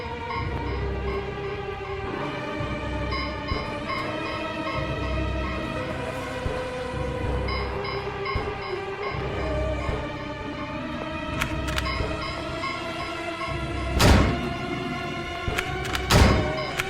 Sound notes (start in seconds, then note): 9.3 Cooper groaning; 14.0 gunshots popping